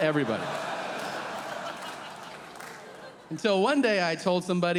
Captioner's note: audience laughing